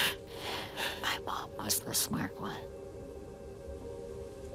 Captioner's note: whispering